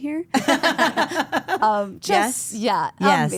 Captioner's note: group laughs